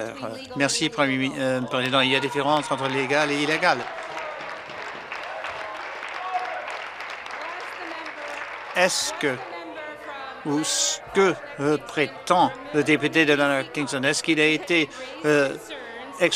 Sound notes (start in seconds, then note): 7.0 some Applause